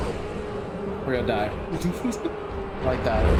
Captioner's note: laughs